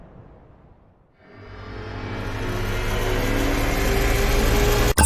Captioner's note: wind whooshing